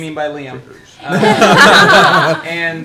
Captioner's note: all laugh